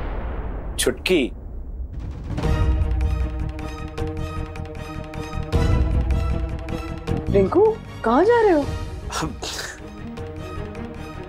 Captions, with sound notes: Chutki... [dramatic music playing] Rinku, where are you going? [scoffs]